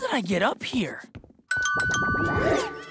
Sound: dinging

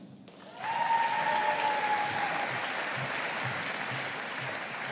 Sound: audience applauding

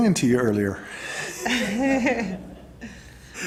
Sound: laughter

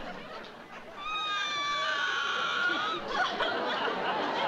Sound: sobbing

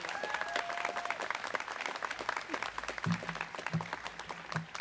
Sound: students cheering

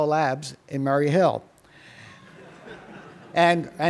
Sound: laughter

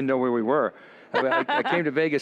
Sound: laughs

